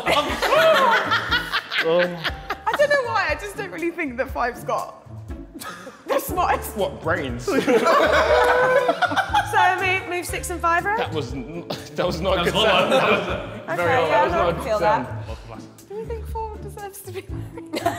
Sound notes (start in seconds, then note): 0.0 women laughing; 12.4 Sidemen laughing